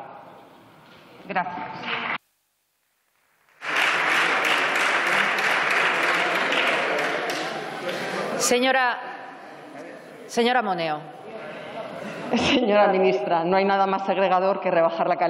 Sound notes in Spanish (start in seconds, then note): 3.5 Aplausos